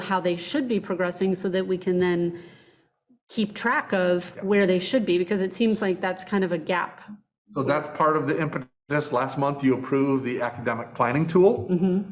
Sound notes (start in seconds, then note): 8.4 internet distortion